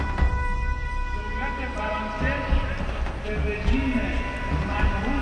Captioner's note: Arabic spoken language